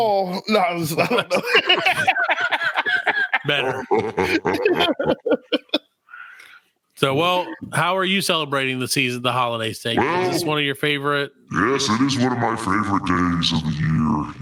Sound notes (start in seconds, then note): 0.7 laughing